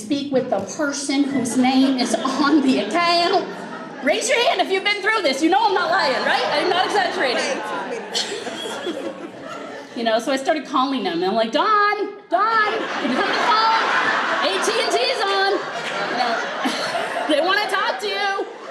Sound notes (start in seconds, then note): 15.8 group laughs